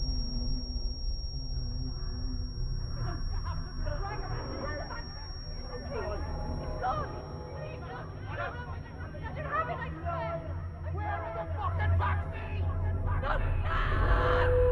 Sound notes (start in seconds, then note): 4.3 distorted shouting; 8.5 faint shouting in distance; 13.6 screaming